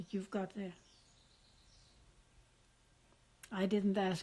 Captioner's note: pauses for 3 seconds